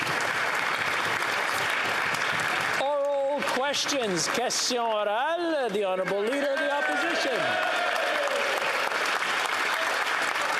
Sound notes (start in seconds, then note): 3.5 applause